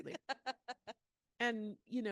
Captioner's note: laughing